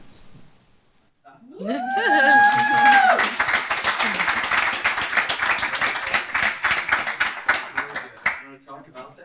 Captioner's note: cheers; applause